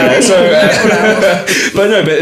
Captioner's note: laughing